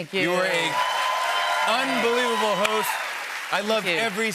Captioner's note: cheers and applause